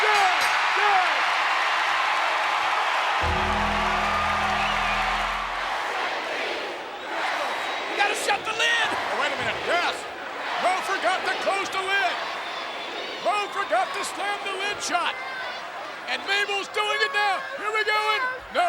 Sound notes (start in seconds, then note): 0.0 audience cheers; 3.2 bell rings; 3.2 ominous music; 3.3 audience cheers; 5.8 audience chanting